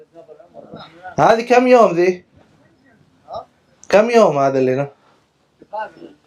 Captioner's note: Arabic